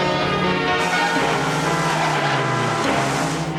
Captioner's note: honk